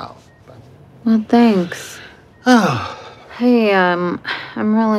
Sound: sighs

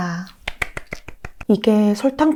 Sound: applause

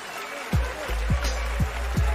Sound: cheers and applause

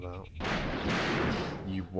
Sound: thunder crashes

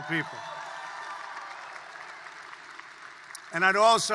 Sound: applause

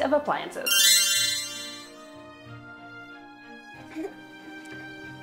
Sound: magical tinkling

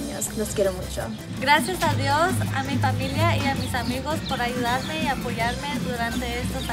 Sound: speaks in foreign language

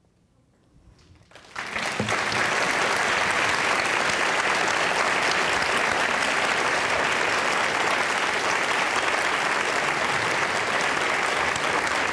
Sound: applause

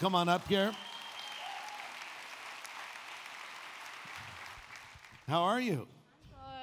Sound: audience cheering and applauding

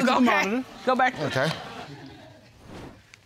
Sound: laughter

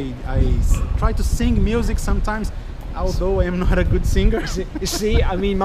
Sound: laughing

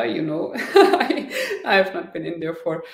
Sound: chuckling

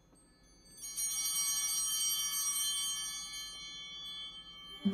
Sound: bell ringing

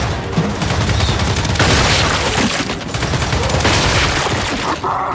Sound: gunshots

